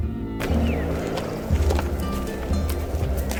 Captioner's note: sound effects and footsteps in the woods